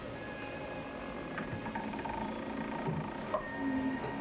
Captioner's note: soft uneasy music; bridge creaking